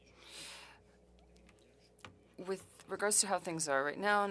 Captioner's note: speaking french